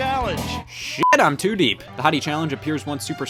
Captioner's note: beep